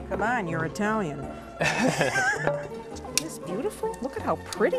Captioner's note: laughter